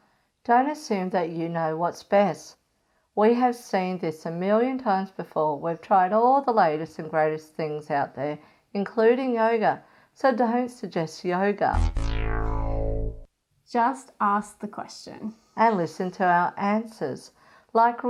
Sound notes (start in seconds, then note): 11.7 wrong answer sound